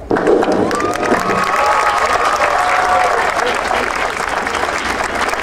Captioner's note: audience cheering and applauding